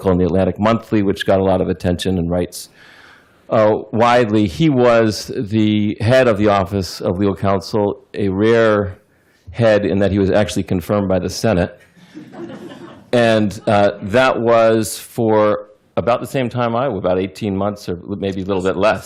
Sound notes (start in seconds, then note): 11.8 laughter